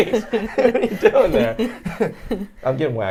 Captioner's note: group laughing